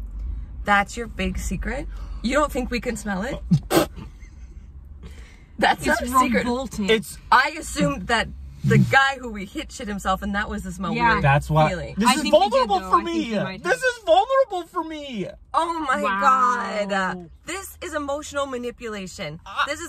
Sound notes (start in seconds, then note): 3.3 laughs